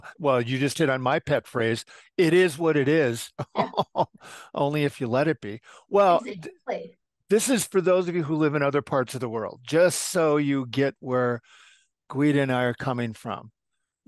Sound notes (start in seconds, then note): 3.4 chuckle